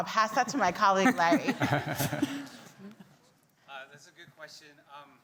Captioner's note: group laughing